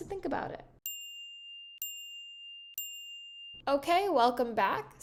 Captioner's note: timer chiming